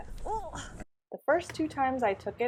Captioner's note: grunting and struggling